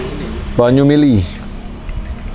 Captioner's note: flowing water